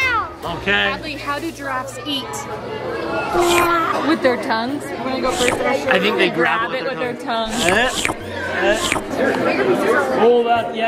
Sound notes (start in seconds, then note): 3.3 loud lick; 5.2 loud lick; 7.4 loud licks